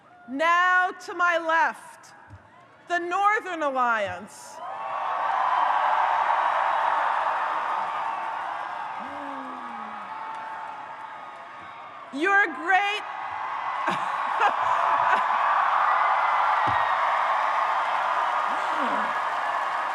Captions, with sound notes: Now to my left, the Northern Alliance. (audience cheers) Your great-- (audience cheers) (laughs)